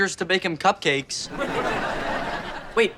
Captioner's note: audience laughter